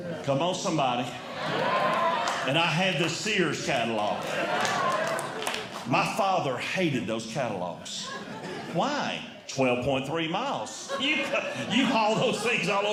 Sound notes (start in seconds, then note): 1.2 audience Cheering